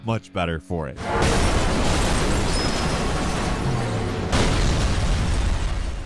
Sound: car crashing; explosion banging

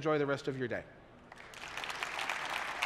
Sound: applause

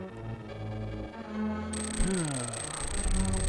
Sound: long sigh

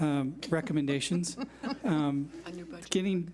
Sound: laughs

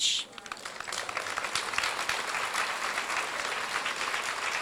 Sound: crowd applauds

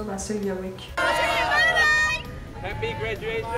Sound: crowd cheering

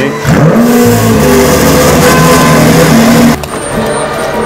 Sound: angry Engine Sounds

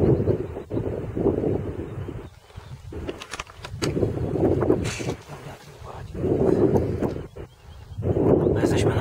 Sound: you can head strong wind blowing

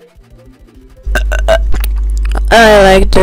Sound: burp

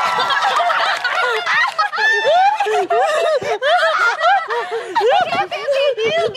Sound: girls laughing and giggling

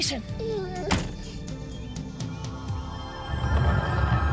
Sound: Prince whines

